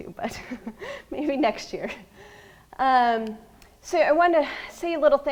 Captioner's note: laughs